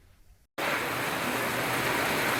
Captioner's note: rainfall